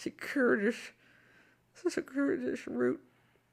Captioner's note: mumbles softly